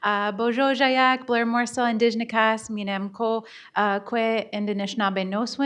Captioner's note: speaking in Bodéwadmimwen